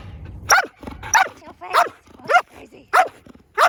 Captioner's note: dog barking